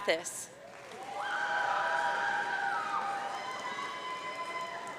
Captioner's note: audience cheering